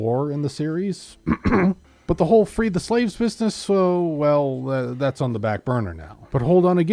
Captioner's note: ahem